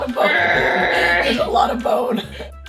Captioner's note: growls; gentle music